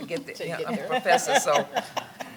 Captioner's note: laughing